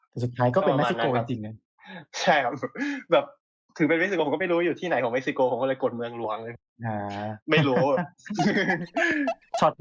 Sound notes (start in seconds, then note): 7.5 laughs